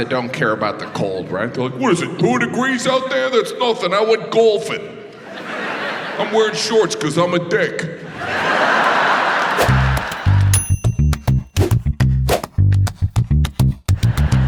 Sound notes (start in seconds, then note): 8.0 audience laughs; 9.5 upbeat music